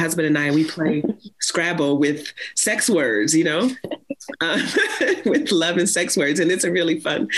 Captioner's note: laughs